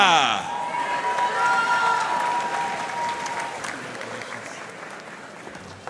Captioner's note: audience cheering and applauding